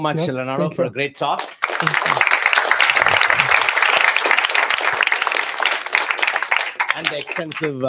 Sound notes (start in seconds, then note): 1.3 applause